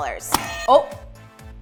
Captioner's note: buzzer